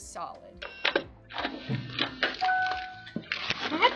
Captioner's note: Eufy lock whirs; door clatters; Eufy lock chimes